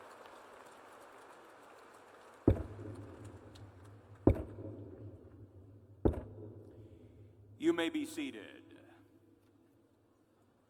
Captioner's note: applause